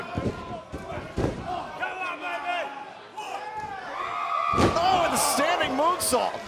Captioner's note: crowd chatter